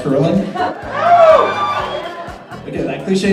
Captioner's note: crowd howls approval